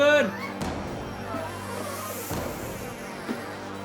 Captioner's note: Kathy crying